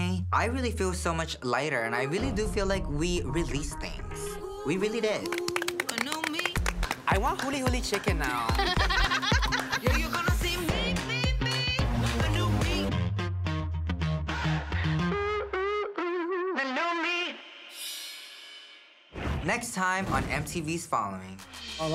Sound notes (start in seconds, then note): 5.2 applauding; 7.8 laughing; 8.6 upbeat music